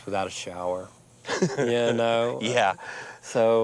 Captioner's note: laughs